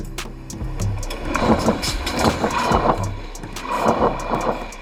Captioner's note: train wheels grinding